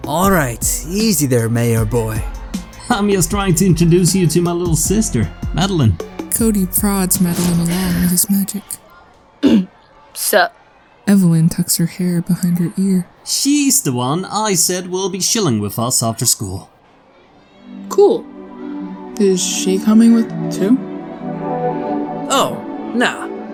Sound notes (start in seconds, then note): 8.9 sighs; 9.4 clears throat; 21.3 musical flourish